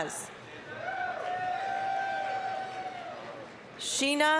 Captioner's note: applause, cheering